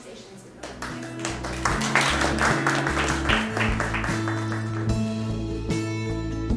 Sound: audience applause

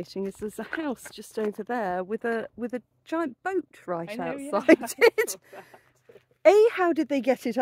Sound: laughing

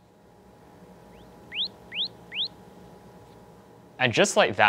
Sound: chirping

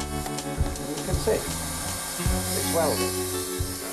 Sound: blow torch whistling

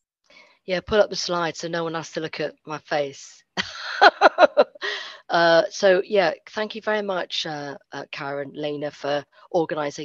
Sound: laughter

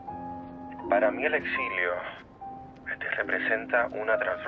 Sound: speaking Spanish

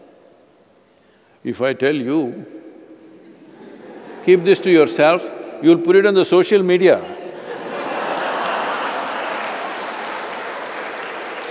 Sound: laughter/Applause

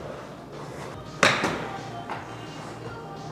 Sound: ball thuds

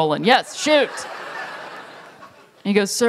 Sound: laughter

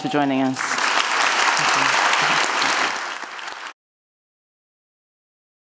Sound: audience applauding

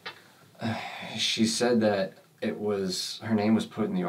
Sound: sighs

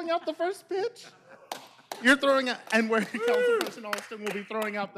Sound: laughter

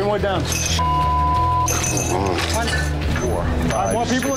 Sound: beep

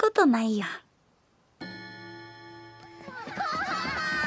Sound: bell ringing

